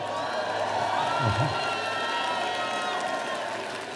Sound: audience cheering

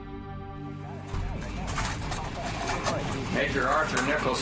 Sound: cameras click

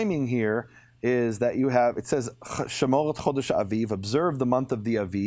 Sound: speaking in foreign language

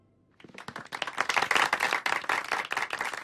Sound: the crowd applauds

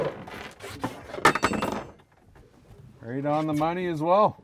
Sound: clanking

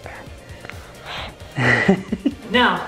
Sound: laughs

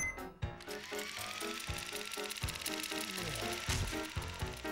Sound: whirring; sighs

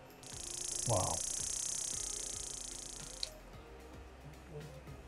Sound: machine pulsing

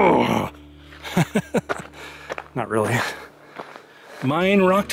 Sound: laughter

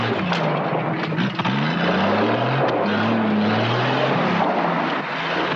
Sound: engine roaring

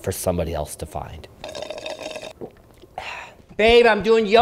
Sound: drink slurping

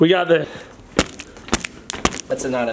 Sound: crackling sound

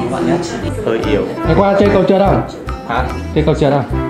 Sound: chatting

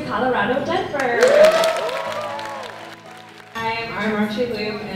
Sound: crowd cheers and claps

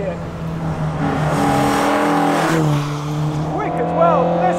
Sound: engine revving

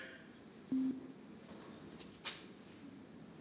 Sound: beep

